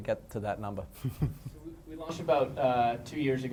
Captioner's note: chuckles